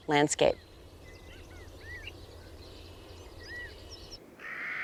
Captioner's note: bird calls, wind; harsh caw of Clark's nutcrackers